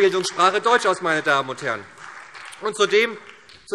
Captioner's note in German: Beifall SPD